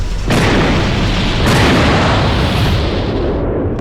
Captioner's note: exploding